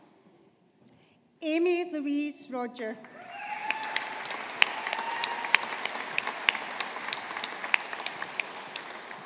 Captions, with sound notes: Ami Louise Rodger. (AUDIENCE APPLAUDING)